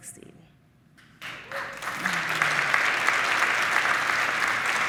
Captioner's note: audience applauding